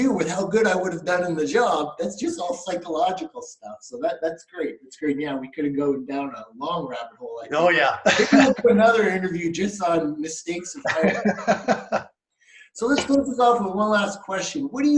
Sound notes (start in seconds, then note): 7.7 laughs; 10.7 laughing